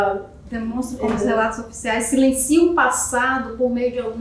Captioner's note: speaking portuguese